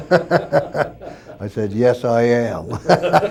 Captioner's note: laughs